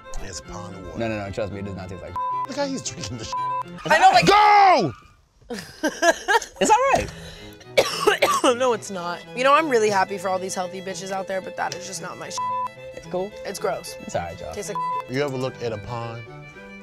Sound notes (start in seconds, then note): 2.1 beep; 12.3 beep; 14.7 beep